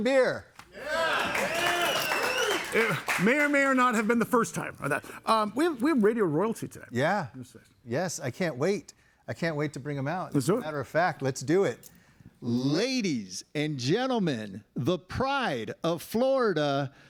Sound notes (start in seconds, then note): 0.6 audience applauding